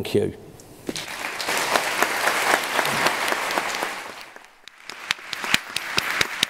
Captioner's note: applause